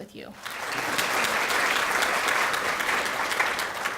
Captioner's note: clapping